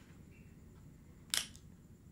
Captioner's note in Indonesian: klik